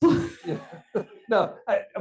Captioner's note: attendees laughing